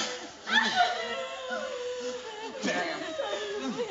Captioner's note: women crying